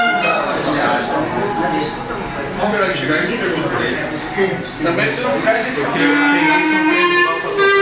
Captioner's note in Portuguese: som de conversas ao fundo